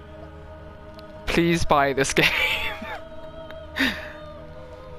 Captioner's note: laughs